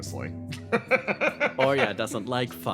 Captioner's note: laugh